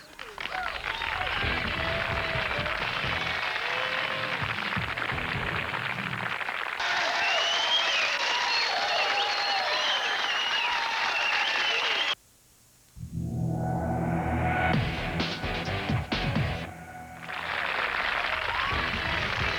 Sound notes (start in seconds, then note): 1.9 rock music; 4.9 cheers and applause; 14.2 rock music; 18.1 cheers and applse